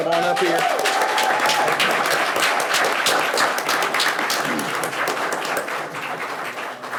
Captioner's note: people cheering; people clapping